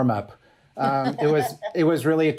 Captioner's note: laughs